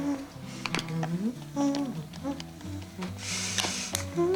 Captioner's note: humming